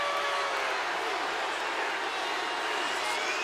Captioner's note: crowd boos